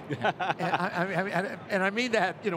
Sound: laughing

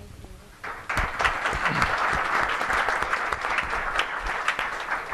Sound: applause

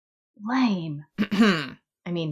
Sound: clears throat

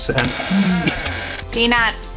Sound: box creaks

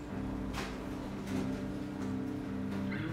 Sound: printers whirring

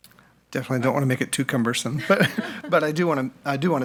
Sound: laughs

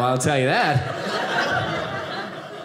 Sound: audience laughing

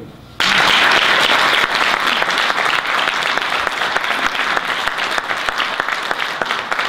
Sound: audience applause

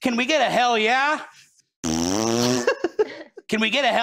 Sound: fart noise; giggling

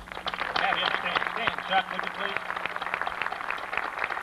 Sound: applause

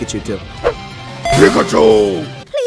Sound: Manly short Pika noise

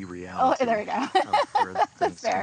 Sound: laughs

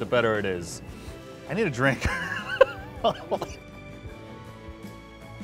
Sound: laughs

